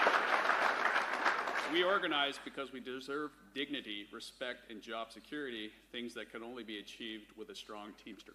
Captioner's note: applause